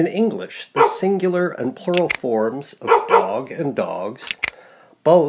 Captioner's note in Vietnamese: dogs